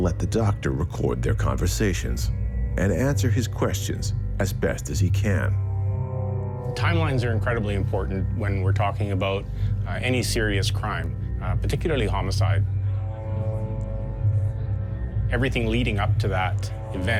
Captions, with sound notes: - Timelines are incredibly important when we're talking about any serious crime, particularly homicide. (people chatting) Everything leading up to that event needs to be documented. It needs to be questioned. Who was involved? Who was around?